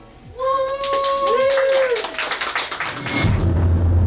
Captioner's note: clapping